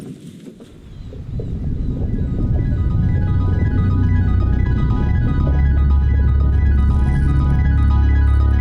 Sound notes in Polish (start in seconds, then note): 0.6 śpiew ptaków